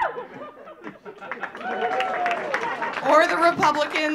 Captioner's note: audience cheering; audience clapping